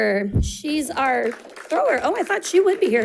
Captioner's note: audience applauding